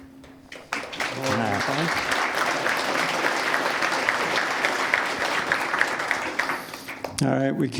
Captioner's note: applause